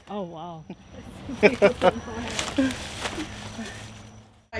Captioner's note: laughs